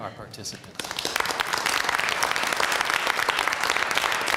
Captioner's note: applause